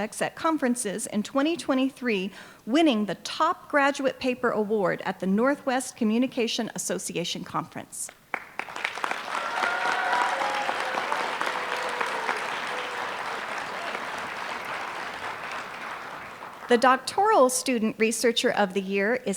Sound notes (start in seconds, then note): 8.2 applause